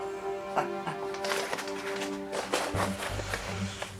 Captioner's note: Billy Ray chuckles